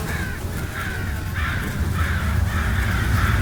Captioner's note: insects buzzing; crows cawing